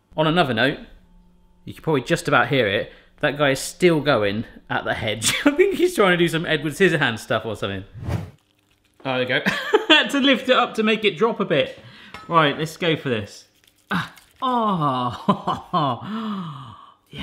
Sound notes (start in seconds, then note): 10.0 laughs; 14.5 laughs